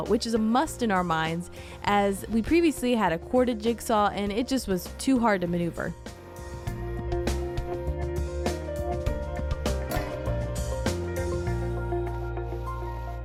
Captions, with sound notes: which is a must in our minds, as we previously had a corded jigsaw, and it just was too hard to maneuver. (gentle music) (metal clanging)